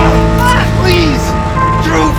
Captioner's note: both grunt